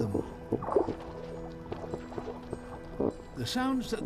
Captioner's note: grunting